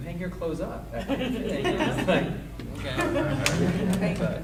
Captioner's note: audience laughing; laughing drowns out speaker